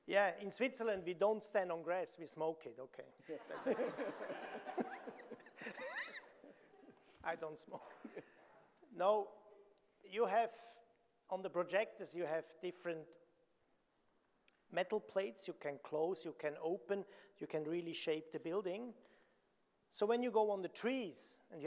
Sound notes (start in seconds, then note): 3.3 audience laughing